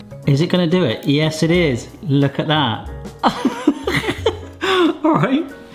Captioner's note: laughs